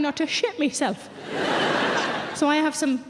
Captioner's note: audience laughing